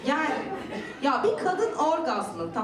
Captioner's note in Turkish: Gülüşmeler